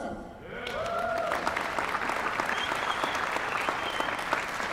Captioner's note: applause